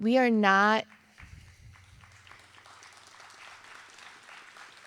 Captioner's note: audience applauding